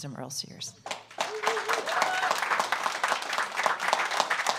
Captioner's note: audience applauds